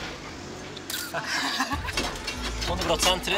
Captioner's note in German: lachen